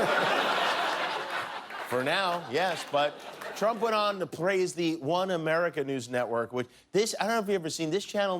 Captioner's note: laughter